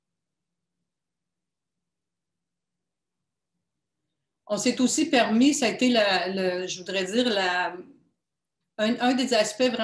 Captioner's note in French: silence